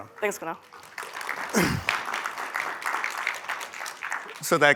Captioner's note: applause